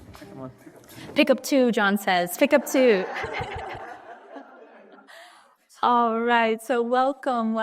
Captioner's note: audience laughs